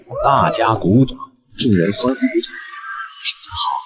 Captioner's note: cheers